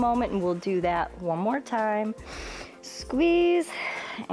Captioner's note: inhales